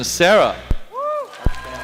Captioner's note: applause